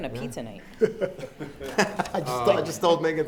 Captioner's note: laughing